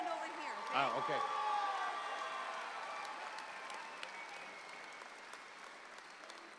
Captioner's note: audience applauding